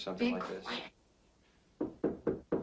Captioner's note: knocking